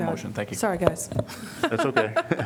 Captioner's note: laughter